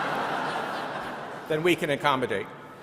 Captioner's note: audience laughing